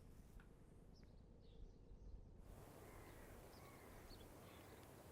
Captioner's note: birds chirping